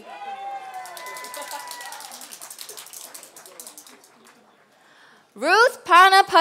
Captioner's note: applause